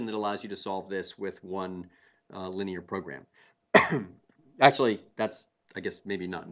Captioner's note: cough